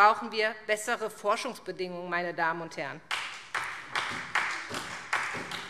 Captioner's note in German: Beifall SPD